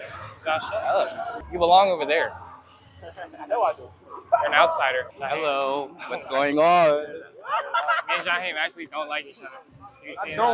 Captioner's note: laughter